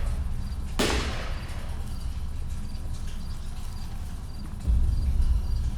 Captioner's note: gunshots